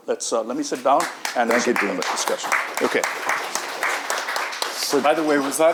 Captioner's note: audience applauding